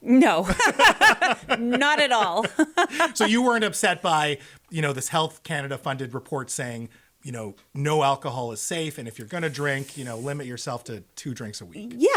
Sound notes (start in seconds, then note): 0.4 laughing